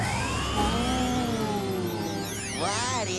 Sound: whirring; oohing

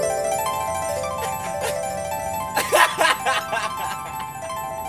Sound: Marco laughing

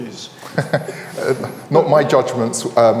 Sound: speaker laughing

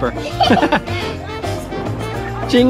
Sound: laughs

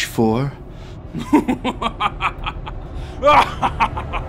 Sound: evil laughing

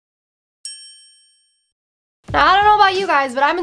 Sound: bell dings

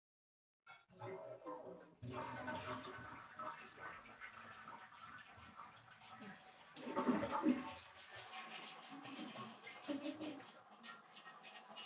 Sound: toilet flushes

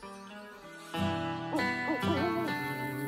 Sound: hooting

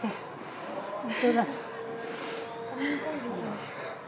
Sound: chuckles

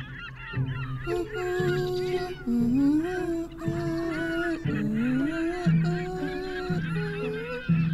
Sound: humming

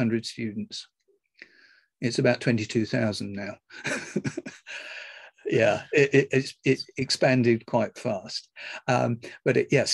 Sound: laughs

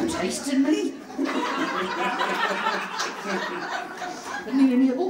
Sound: audience laughs

